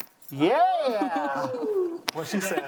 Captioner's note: laughing